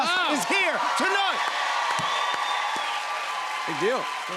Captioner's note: cheers and applause